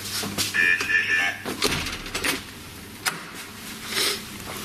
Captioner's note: Ovilus chattering